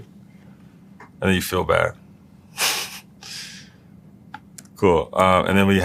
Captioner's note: laugh